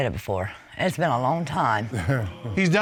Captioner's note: chuckles